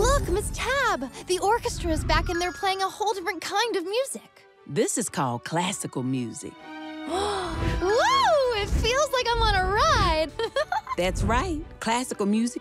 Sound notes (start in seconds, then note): 4.5 classical music playing; 7.1 gasps; 10.4 chuckles